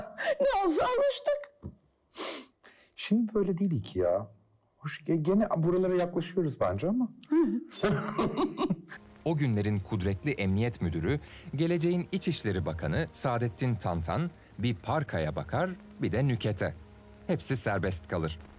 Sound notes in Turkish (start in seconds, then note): 7.7 Gülüyor